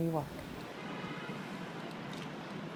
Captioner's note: city noise